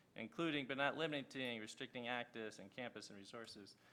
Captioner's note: none